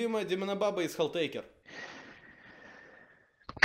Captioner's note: A heavy sigh foreboding grief